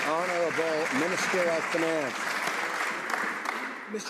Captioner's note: some Applause